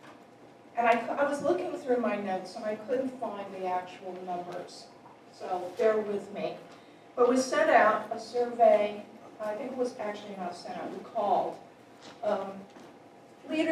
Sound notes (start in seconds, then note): none